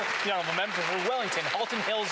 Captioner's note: speaking French